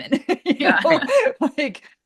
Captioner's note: laughs